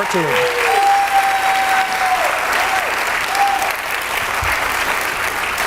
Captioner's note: audience cheering and clapping